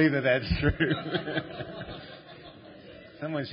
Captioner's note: laughter